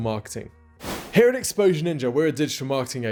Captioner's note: whoosh